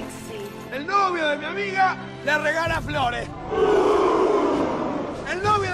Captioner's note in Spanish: uuuuh